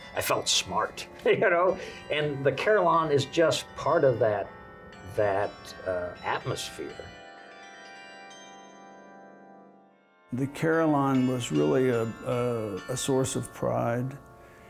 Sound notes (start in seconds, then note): 7.0 bells chiming